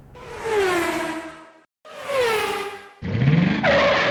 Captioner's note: engine revs